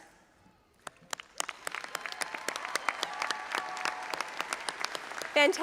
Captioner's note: audience applauding